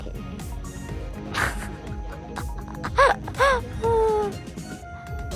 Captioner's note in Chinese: 哈哈哈哈哈